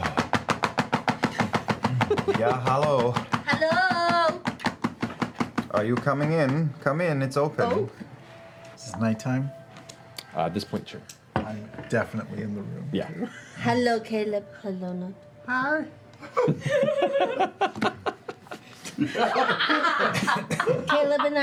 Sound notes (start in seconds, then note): 0.0 rapidly knocking; 4.1 still knocking; 14.6 seductively; 16.2 laughter